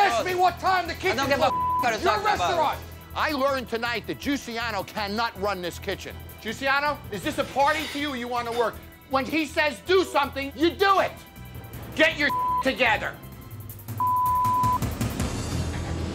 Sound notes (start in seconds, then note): 12.3 beep; 14.0 beep